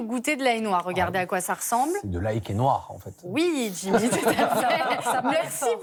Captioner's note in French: rires